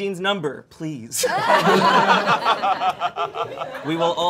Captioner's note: all laughing